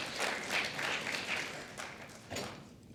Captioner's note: applause